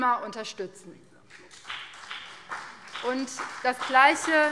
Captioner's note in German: Beifall BÜNDNIS 90/DIE GRÜNEN